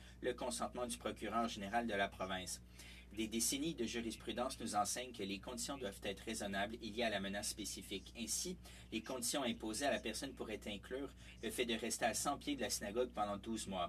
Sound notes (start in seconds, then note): 0.8 speaking French